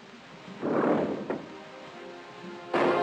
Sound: lever sound; sad music

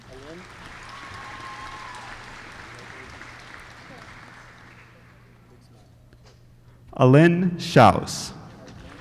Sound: applause

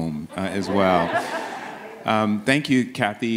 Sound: audience laughs

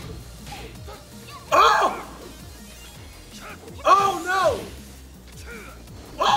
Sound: laugh

